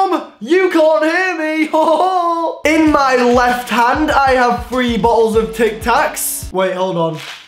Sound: weird laugh

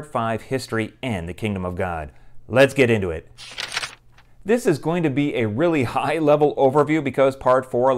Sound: page turning

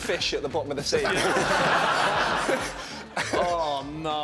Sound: laughing

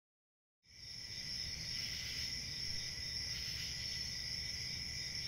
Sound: summer crickets

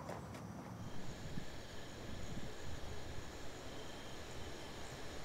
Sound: insects chirping

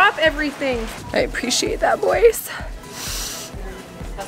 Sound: sniffs

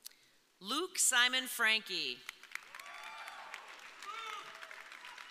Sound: audience cheering

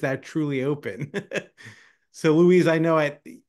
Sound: laughing

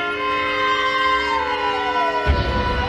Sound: police sirens

